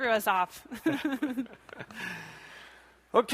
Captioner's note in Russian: смех